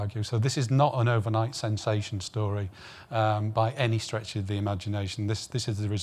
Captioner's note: none